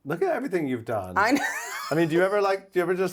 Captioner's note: laughs